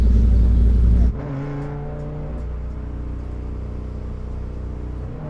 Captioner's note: engine revving